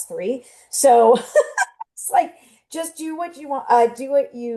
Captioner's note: laughs